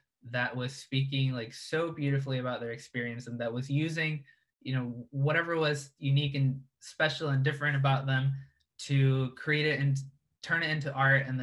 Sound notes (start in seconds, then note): none